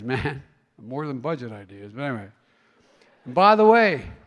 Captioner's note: laughter